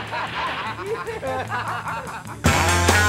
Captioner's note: laughing